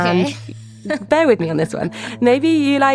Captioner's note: laughs